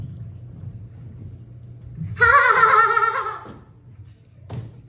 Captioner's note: mockingly Laughing